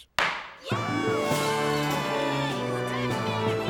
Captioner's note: students cheering